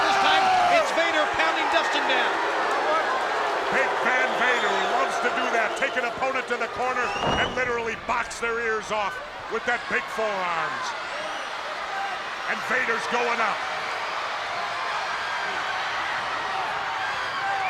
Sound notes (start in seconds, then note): 2.6 spectators cheering; 11.6 spectators cheering; 14.4 spectators cheering